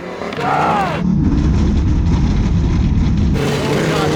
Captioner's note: engine droning